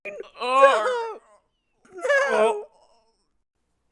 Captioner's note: Rey and Ben groan in disgust